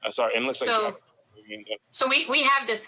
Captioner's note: faintly speaking